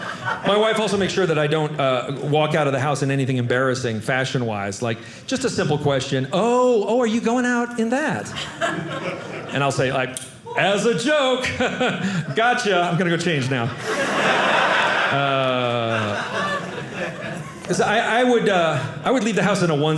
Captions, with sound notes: My wife also makes sure that I don't walk out of the house in anything embarrassing fashion-wise. Just a simple question. "Oh, oh, are you going out in that?" And I'll say, As a joke. Got you. I'm going to go change now. (audience laughing) I would leave the house in a onesie,